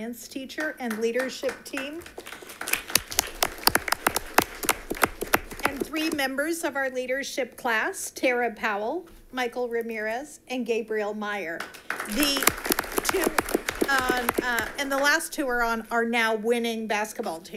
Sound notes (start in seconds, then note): 3.0 audience applauds